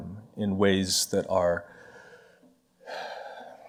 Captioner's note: sighs